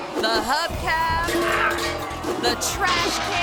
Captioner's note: metal clangs